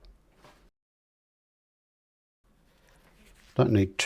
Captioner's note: silence